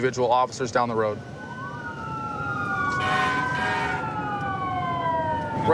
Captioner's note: emt sirens blaring